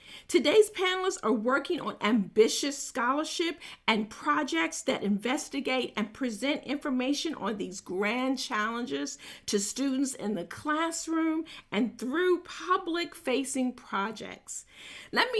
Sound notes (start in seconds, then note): none